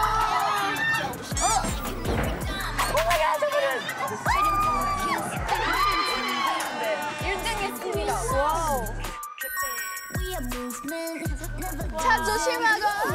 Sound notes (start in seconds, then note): 5.6 scream~